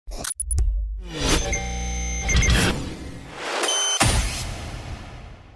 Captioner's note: cool sound effects